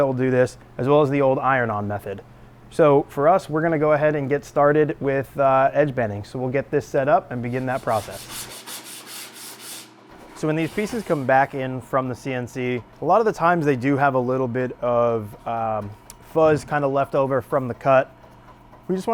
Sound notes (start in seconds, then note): 7.4 sandpaper scraping